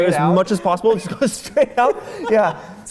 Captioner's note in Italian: Risate